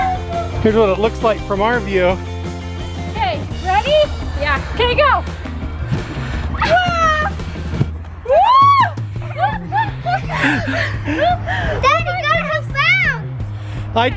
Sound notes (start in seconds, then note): 9.0 everyone laughing